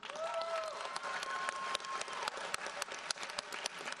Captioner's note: audience applauds